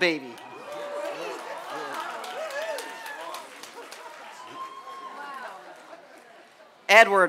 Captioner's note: applause and cheers